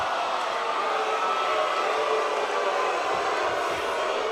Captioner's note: crowd cheering; crowd chatter